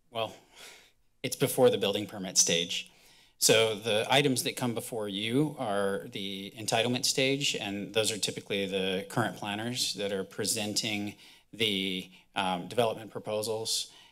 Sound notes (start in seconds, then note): none